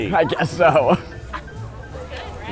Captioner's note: laughing